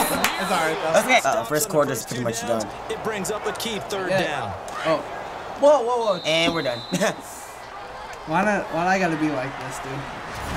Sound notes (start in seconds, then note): 6.0 whistle blows; 6.9 chuckles